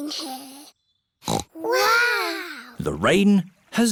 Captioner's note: peppa snorts